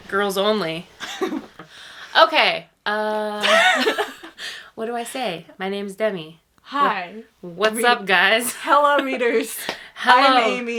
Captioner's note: laughs